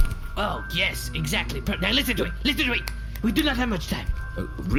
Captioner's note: snapping urgently